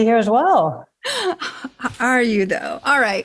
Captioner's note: chuckles